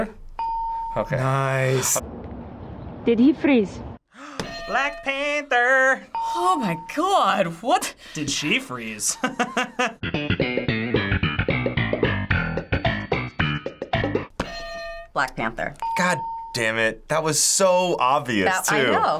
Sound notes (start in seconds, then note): 0.4 ding; 4.1 gasps; 9.1 chuckles; 14.4 ding; 14.4 hitting bell